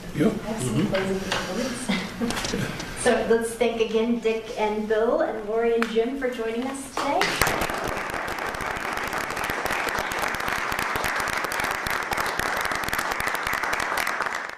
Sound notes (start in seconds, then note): 7.2 clapping